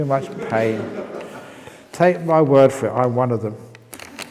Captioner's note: laughs